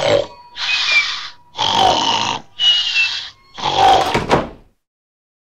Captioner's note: door opens; snoring; door closes; snoring